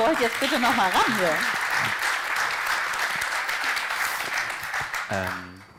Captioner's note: applause